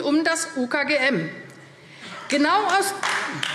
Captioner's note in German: Beifall AfD